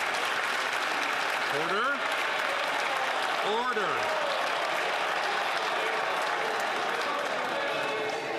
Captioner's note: some Applause